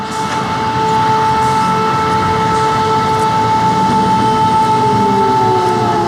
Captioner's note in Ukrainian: лунає електросирена